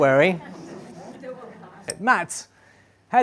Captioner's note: background talking